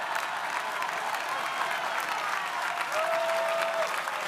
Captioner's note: crowd applauding